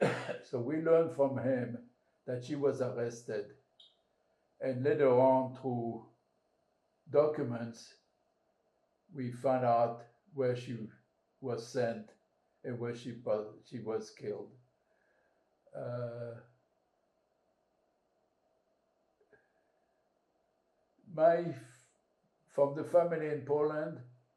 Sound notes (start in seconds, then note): 14.8 pauses 6 seconds